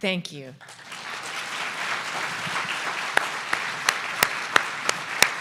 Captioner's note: audience applause